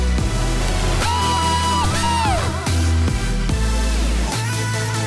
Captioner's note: man screams